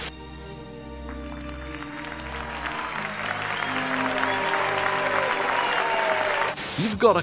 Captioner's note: happy music; people cheering